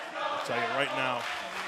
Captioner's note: fans chanting